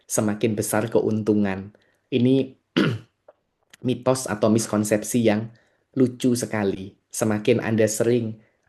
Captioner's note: berdehem